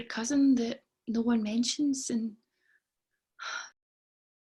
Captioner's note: sighs